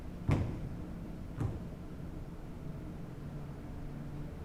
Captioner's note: footsteps thudding